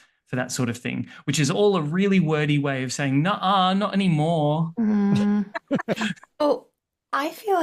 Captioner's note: laughter